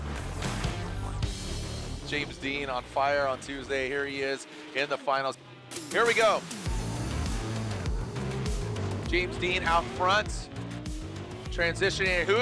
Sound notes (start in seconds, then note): 0.1 logo whooshes; 7.0 engine roaring; 7.0 upbeat music